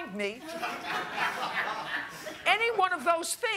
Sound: laughter

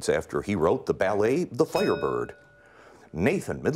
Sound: bell rings

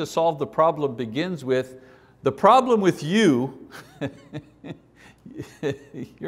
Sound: laughs

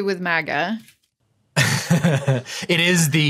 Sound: chuckles snidely

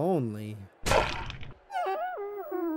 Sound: loud splat

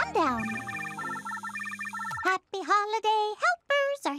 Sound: phone ringing

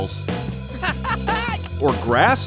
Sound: Blaze laughing

